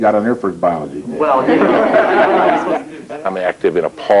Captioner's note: laughter